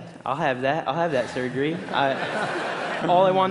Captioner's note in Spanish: Risas